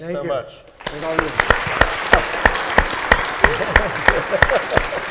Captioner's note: audience applauding